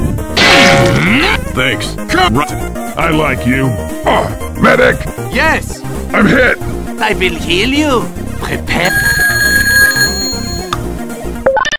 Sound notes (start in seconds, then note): 8.8 telephone rings